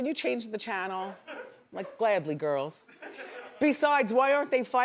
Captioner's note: audience laughs